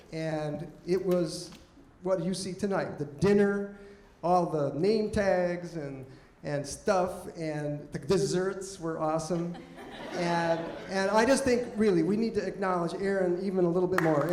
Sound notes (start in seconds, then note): 9.3 audience laughing